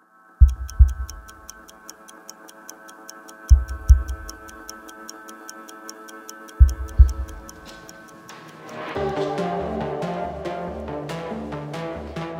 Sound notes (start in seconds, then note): 0.4 clock ticking; 0.4 heartbeat; 9.3 suspenseful music